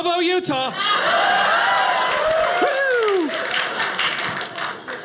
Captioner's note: audience cheers